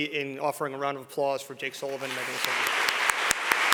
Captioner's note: applause